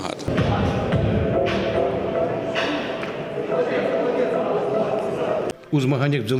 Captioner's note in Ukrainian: шум в залі